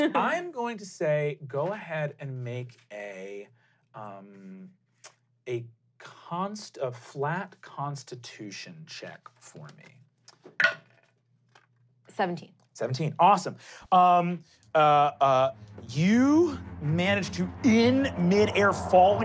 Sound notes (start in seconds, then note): 0.0 laughing; 11.0 rolling dice